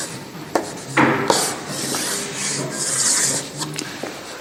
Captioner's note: pencil scratching